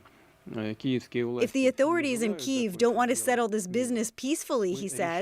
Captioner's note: speaking alternate language